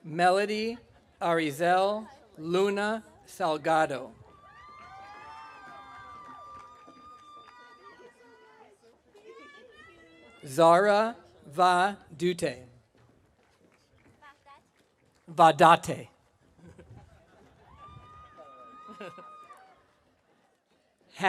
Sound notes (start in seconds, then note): 4.3 audience cheering; 17.6 audience cheering